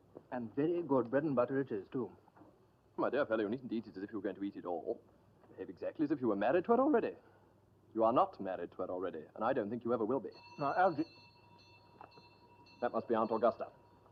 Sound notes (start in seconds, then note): 10.2 doorbell keeps ringing; 10.3 doorbell rings; 13.5 doorbell keeps ringing